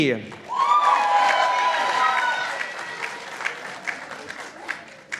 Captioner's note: participants applauding